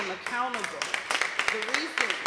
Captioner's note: applause